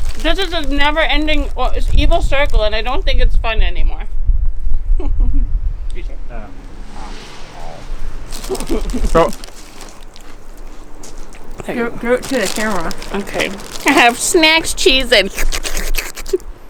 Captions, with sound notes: This is a never ending...evil circle and I don't think it's fun anymore. *giggles* Cheezit Give it to the camera. Okay. I have snacks, Cheezits.